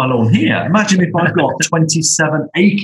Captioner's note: laughter